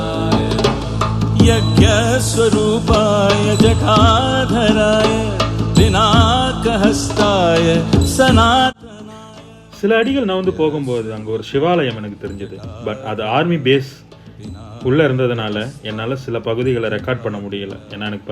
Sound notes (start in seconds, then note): 2.3 chanting sounds